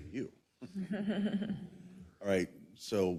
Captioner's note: laugh